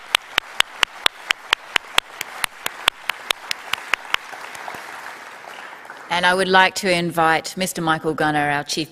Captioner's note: applause